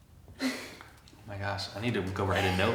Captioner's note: chuckles